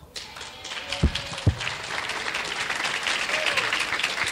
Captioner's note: clapping